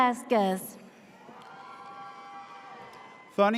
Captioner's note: audience cheers